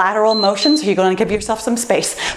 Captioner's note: timer beeps